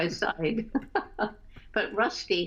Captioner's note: laughter